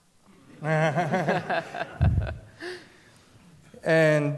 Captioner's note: laughter